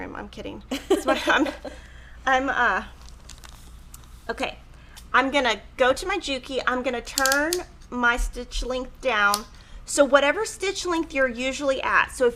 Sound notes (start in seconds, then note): 0.7 laughs